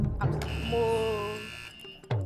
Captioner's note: buzzer pressed